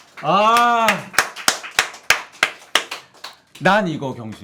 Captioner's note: applause filled with emotion